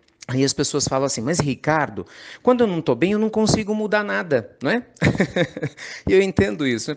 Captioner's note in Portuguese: Risos